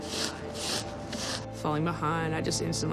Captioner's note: brushing wheel